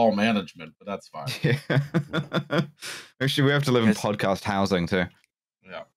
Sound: laughs

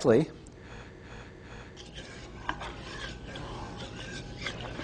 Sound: reversed breathing; stirring sounds

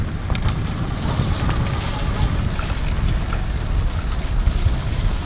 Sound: tires spinning on gravel

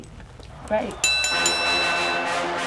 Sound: bell rings; dramatic music

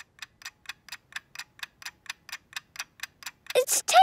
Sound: ticking

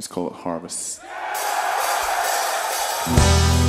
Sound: audience cheering; laid-back music

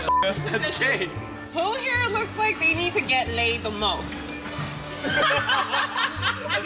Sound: laughter

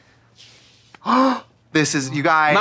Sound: gasping

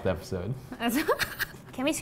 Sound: laughs

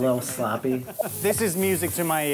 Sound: laughing

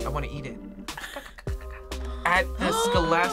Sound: grumbles; gasps

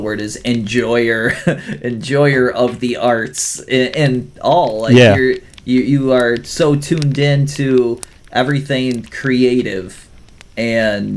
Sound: laughs

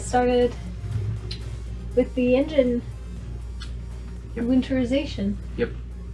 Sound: kisses

